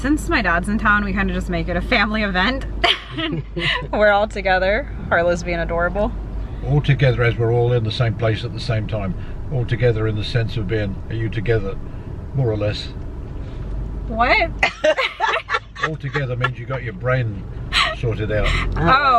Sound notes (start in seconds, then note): 14.6 laughing